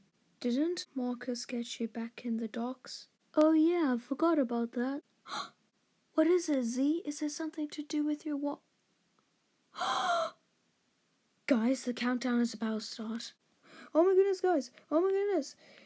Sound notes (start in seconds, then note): 5.3 British gasp